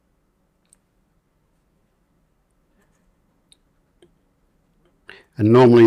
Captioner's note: silence